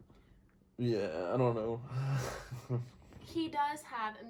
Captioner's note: laughs